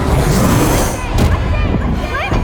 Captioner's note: creature growling